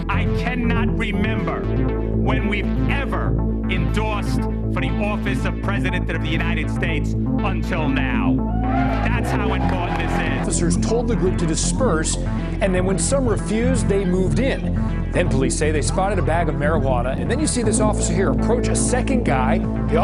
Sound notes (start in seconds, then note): 8.5 audience cheers